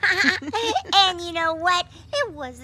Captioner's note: both laughing